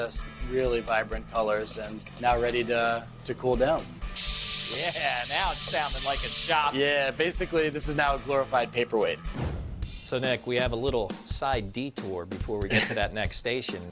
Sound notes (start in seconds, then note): 4.1 tool buzzing